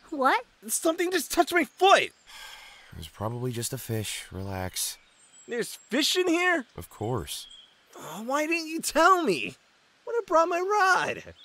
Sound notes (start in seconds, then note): 6.8 sighs